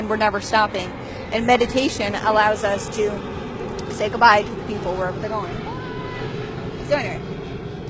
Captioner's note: say goodbye to the people, airplane overhead